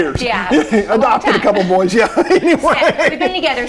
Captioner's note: laughing